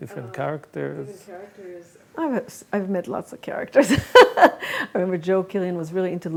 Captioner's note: laughs